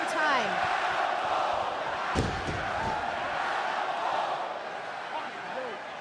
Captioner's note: crowd cheering